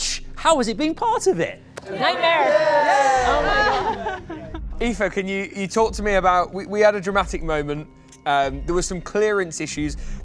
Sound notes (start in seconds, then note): 1.8 cheering